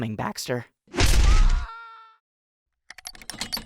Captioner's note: Paintbrush screams; creaking sounds